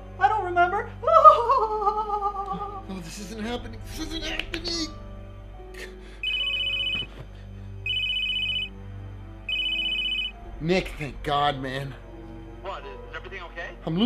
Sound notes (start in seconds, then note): 1.1 goofy laughter; 5.9 phone rings